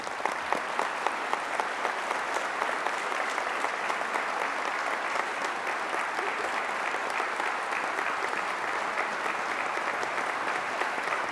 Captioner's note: applause